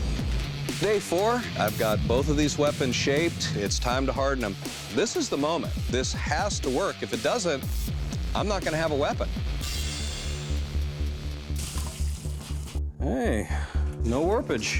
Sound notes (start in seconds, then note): 11.1 sizzling